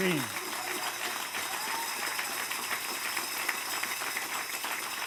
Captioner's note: applause